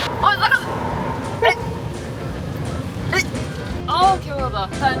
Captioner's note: merciless water stream